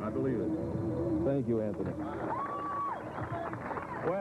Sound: whistling and cheering

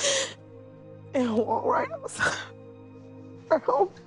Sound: murmuring and crying

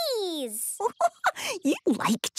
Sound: giggling

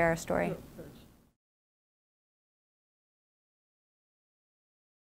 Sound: background mumbling

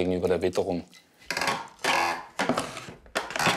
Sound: creaks

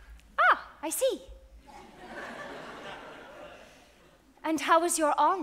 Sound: audience laughs

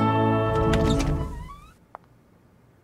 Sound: door opening

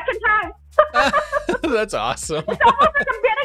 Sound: both laughing

